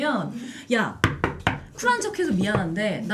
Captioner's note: knocking